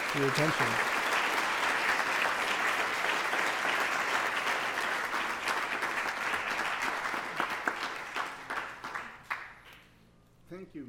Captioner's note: applause